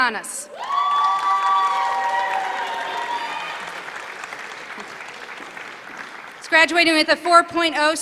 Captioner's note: applause